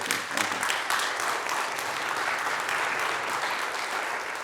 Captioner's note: students applaud